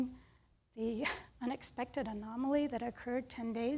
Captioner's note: chuckles